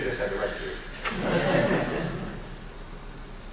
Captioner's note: laughing